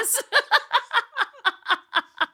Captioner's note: laughter